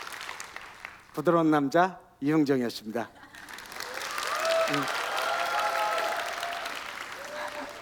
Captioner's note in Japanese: 拍手